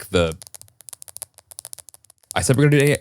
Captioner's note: nails clicking